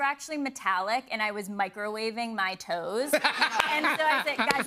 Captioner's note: laughter